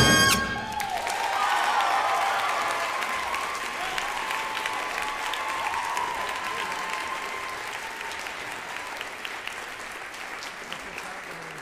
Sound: audience applause

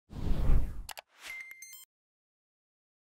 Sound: whooshing

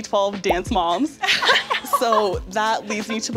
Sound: laughter

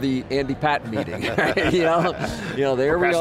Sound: laughs

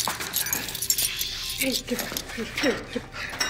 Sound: none

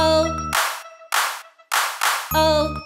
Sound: hands clap

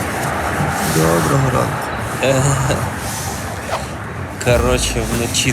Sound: road noise on background

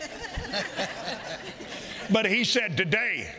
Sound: congregation laughing

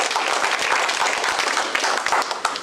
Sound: applause

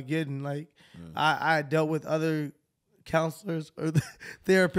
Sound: chuckles

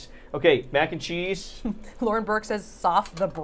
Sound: Safiya laughing

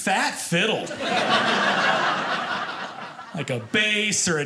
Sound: audience laughing

